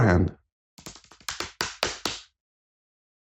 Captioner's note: frantic lap drumming